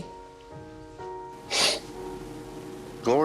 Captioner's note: sniffs